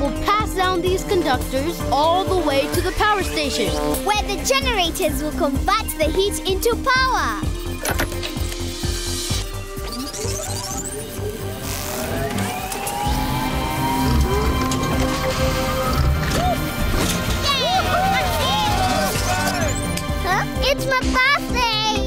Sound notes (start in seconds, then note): 17.4 cheering